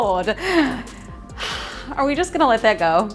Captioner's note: exhales